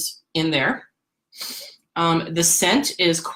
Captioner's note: sniffs